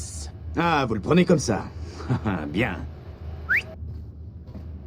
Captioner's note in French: siffle